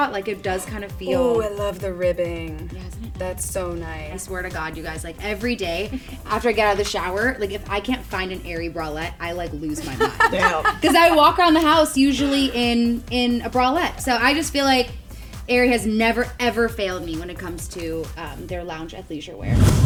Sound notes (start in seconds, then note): 9.8 laughing